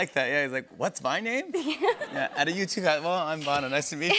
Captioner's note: laughter